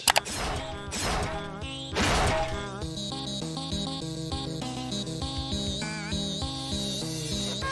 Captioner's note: mouse clicking; blades rasping; mellow music; door clattering